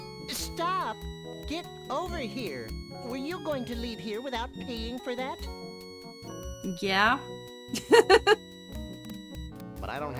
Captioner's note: laughing